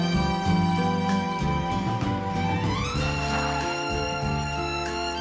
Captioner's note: tire squealing